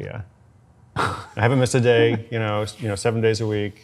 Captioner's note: laughs